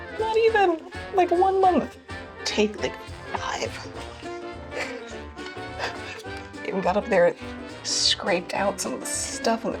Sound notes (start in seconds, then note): 4.7 laughs